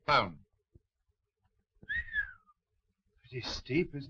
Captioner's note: whistling